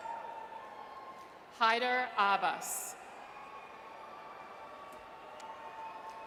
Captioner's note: audience cheers; audience cheers